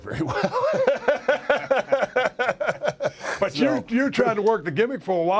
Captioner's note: laugh